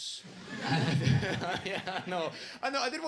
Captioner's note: audience laughs; laughing